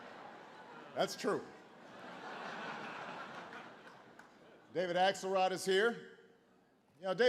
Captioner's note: laughter